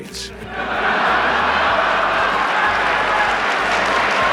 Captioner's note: laughter; cheers and applause